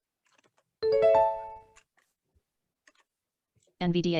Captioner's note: software notification ding